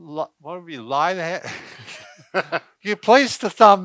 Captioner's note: laughs